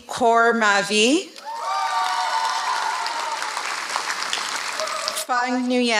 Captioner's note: applause